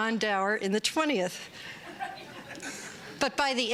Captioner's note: laughter